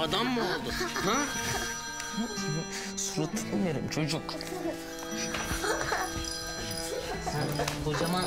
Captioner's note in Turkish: Telefon çalıyor